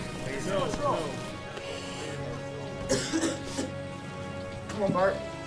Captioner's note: coughs